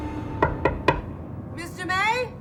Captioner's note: knocking